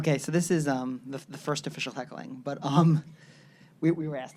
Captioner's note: laughs